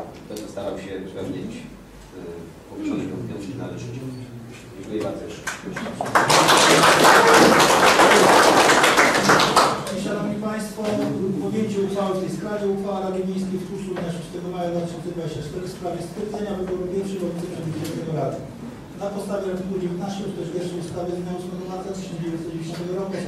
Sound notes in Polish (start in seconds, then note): 5.4 oklaski